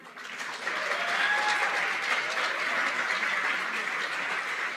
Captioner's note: applause